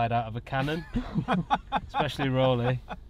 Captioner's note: laugh